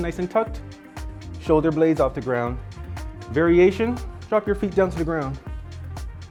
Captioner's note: none